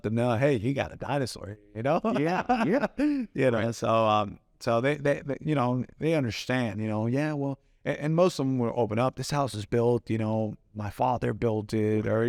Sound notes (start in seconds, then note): 2.0 laughs